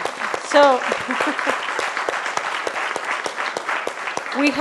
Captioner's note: applause